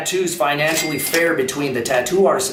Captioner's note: cash register rings